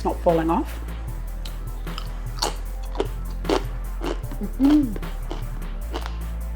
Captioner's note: crunchy chewing